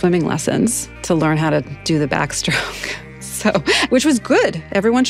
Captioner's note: laughs